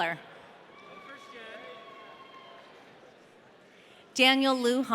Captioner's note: audience cheering